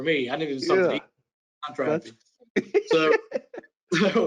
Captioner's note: group chattering